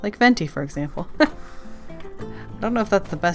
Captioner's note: laughs